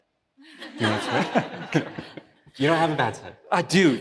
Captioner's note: laughs